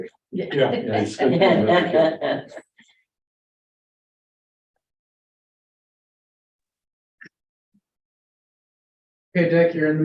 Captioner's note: laugh